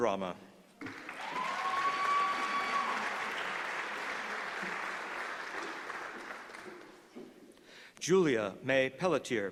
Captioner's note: applause